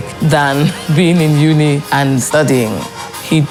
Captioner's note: laughs